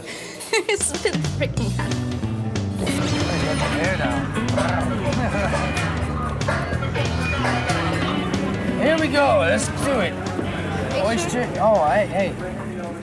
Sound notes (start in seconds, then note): 4.5 purrs; 6.2 upbeat jazz music